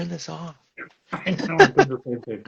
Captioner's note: laughs